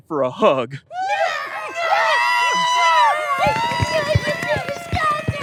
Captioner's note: Derps scream